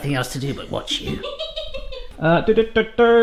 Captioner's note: laughing